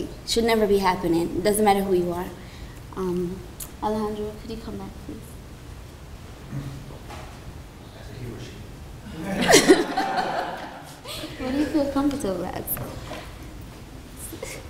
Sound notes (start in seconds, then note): 9.1 laughter